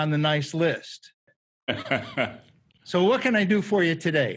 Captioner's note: laughing